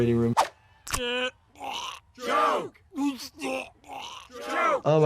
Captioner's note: crowd; Homer choking